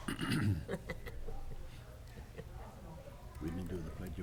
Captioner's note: laughing